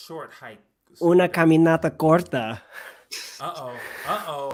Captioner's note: speaking spanish